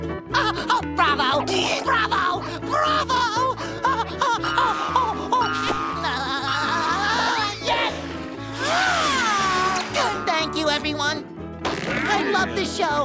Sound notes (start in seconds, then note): 3.8 giggling